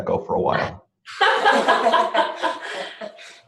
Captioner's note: laughter